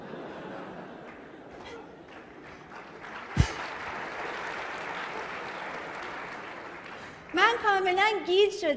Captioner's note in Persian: خنده‌ و تشویق حضار